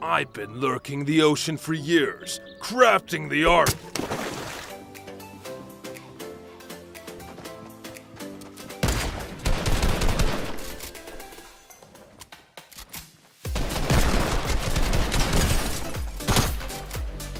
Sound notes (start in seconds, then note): 5.0 mellow music; 8.8 gunshots firing